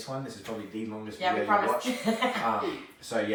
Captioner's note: laughs